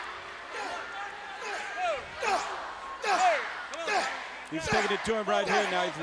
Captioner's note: crowd cheering